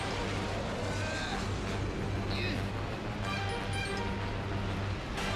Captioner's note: grunting